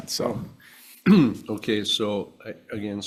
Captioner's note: clears throat